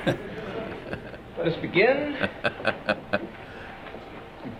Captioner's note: chuckles